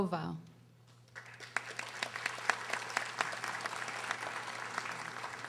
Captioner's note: audience applauding